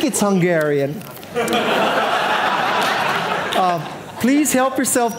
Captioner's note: audience laughing